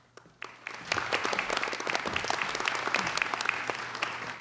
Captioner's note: applauding